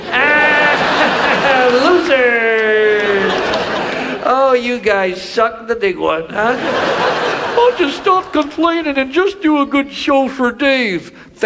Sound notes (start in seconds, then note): 0.0 Chuck laughs; 2.0 audience laughs; 6.4 audience laughs